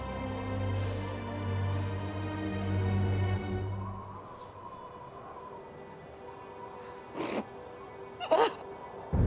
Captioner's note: sobbing